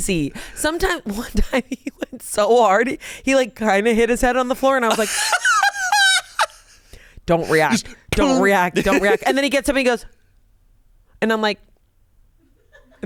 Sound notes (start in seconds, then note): 4.9 laughs